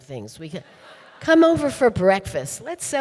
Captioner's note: audience laughing